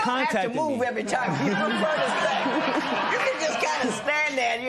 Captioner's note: laughter